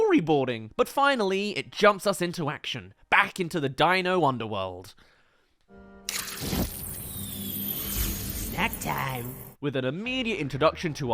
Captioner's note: fire* Snack time